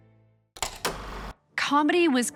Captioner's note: film reel clicks